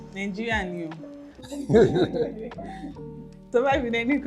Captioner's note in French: rires